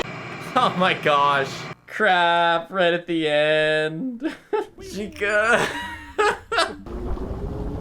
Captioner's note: laughs